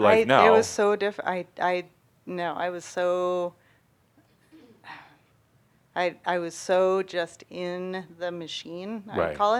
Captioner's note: she sighs